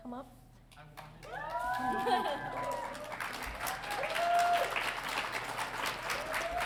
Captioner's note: audience cheering